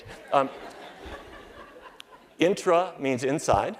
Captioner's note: laughter